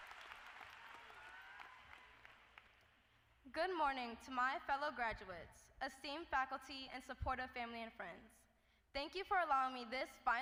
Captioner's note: applause